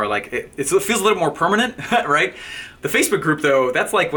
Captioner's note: laughing